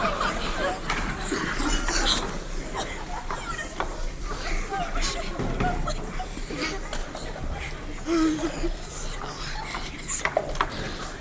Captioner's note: crowd murmuring emotionally